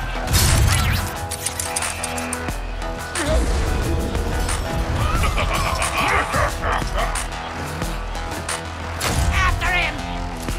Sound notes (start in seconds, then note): 4.9 devious laughter; 8.0 treacherous laughter